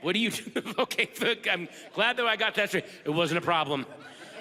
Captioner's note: chuckles